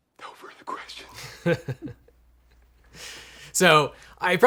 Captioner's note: chuckling